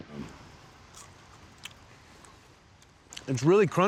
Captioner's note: crunching sound